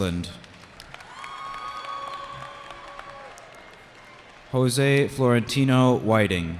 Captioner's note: cheering